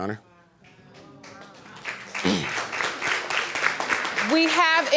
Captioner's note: audience clapping